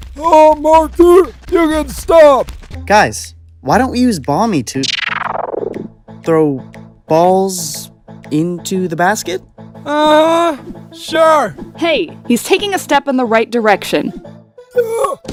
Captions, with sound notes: Uh, Marker? You can stop. Guys. Why don't we use Bomby to— ...throw... balls... ...into the basket? [sarcastically] Uh huh. Sure. Hey. He's taking a step in the right direction. Yuh!